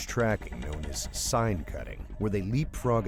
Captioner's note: voiceover